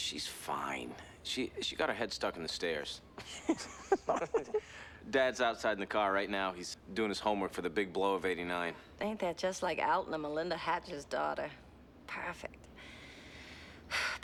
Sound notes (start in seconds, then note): 3.2 laughter